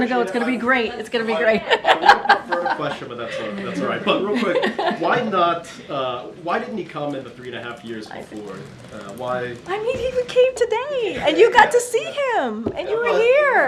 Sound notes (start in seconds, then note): 1.4 laughs; 5.7 laughter